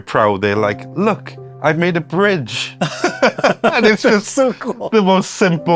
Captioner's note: laughs